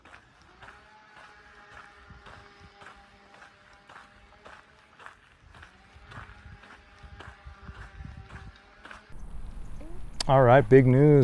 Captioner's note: chain saw noise